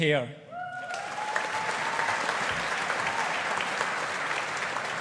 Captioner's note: audience applauding